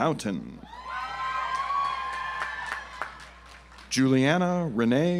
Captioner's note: audience applauds